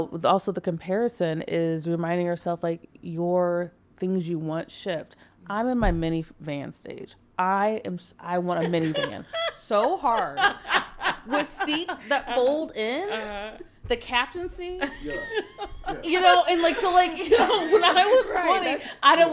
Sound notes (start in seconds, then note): 8.6 podcasters laughing; 14.8 podcasters chuckling